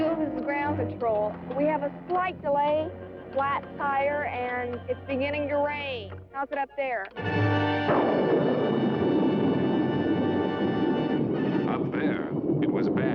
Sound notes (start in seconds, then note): 7.4 thunderclaps